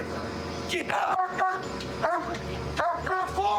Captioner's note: barking